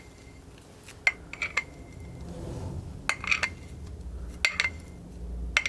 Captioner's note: scratching